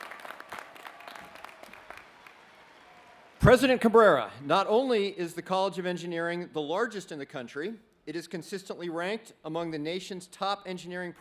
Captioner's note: cheering